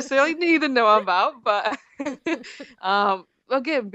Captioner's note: laughs